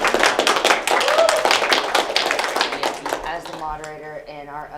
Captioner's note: audience applauding